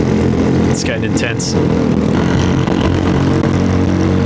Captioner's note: engine noise